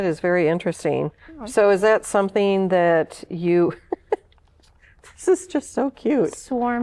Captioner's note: laughter